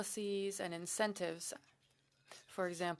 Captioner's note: speaking French